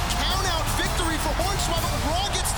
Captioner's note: bell ringing